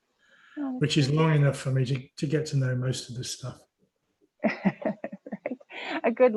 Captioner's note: laughing